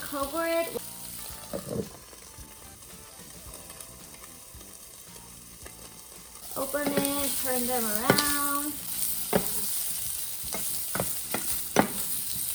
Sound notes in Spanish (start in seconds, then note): 3.5 Sonido chisporroteante; 9.2 Más sonido chisporroteante